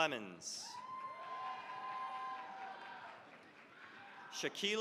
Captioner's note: cheering, applause